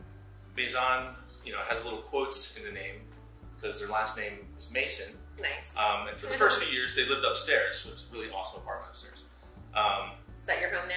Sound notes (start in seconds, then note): 6.2 giggles